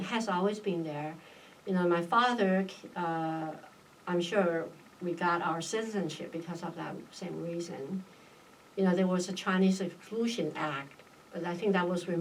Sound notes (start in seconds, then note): none